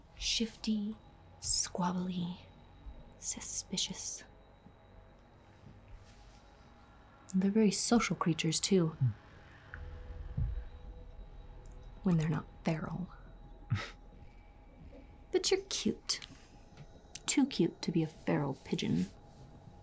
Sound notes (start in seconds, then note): 4.7 soft suspenseful music continues; 13.8 Tristan scoffs